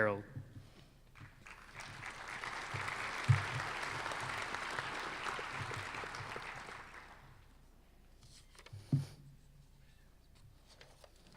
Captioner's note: applause